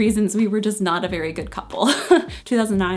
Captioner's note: laughs